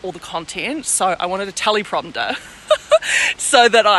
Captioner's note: laughs